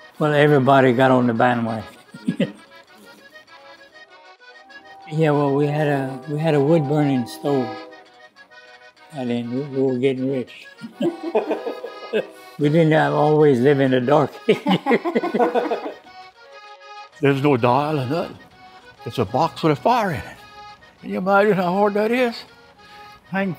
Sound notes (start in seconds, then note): 10.8 dramatic laughs; 14.4 dramatic laughs